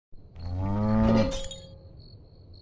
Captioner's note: crickets chirring; cow moos; glass clinks